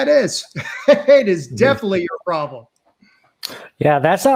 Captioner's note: chuckles